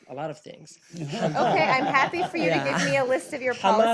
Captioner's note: laughter